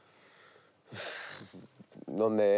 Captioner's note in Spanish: resopla